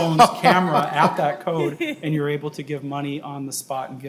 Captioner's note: laughing